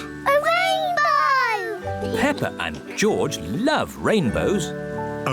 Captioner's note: none